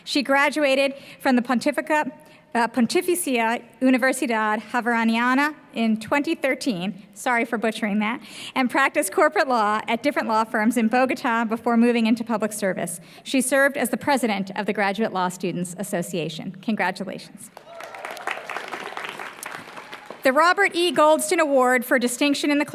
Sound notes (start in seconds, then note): 17.5 applause